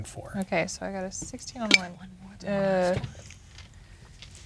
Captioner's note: whispering